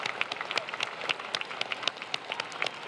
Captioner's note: applause